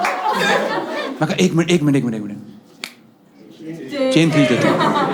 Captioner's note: snaps fingers